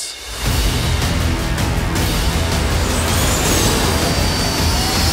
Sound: space engine roaring

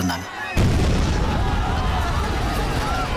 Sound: bomb blast

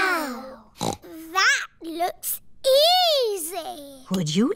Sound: snorts

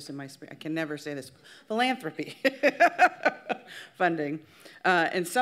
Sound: laughs

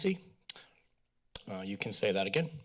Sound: clicks tongue

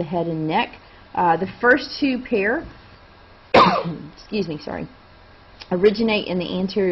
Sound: sneeze

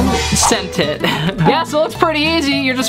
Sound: chuckles

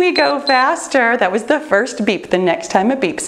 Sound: timer beeps

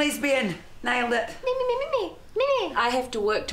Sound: Imitates Vicky

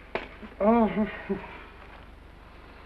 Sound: sighs

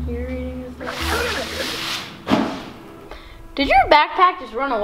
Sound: backpack skids

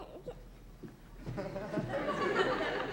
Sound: giggles

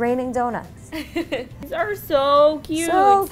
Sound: laughs

